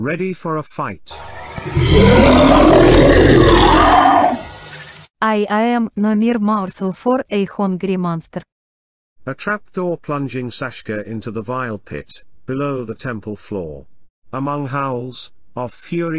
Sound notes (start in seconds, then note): 1.2 roaring